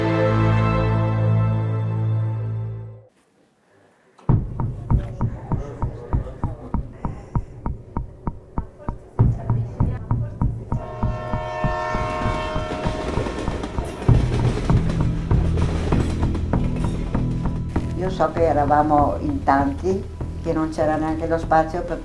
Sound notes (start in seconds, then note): 10.3 train rumbling; 10.7 train whistle trumpets; 17.5 speaking in foreign language